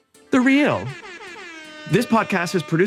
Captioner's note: horn blaring